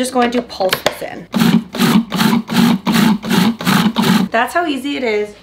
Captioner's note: food processor pulsing